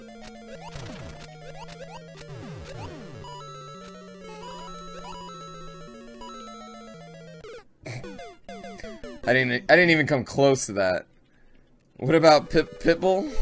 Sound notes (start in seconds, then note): 7.8 death audio